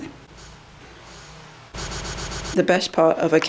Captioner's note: sniffing